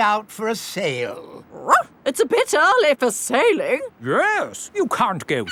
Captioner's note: barks